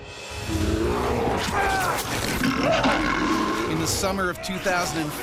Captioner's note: bear growling; man yelling